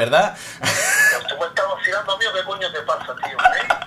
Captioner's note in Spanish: Risas